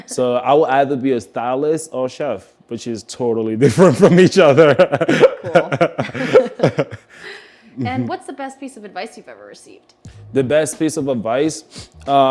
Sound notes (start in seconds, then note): 0.0 laughs; 4.5 both laugh